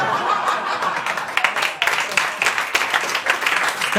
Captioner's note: laughter and applause